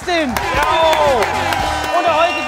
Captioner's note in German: Jubel, Tröte